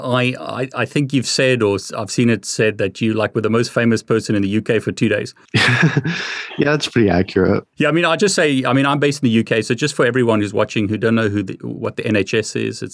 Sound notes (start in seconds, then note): 5.5 laughing